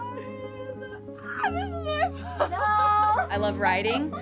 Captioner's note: laughs